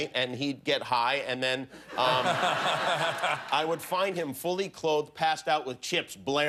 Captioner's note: laughter